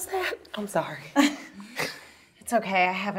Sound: laughs

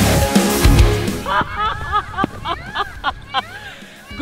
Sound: laughing

